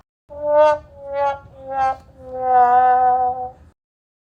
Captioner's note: sad Trombone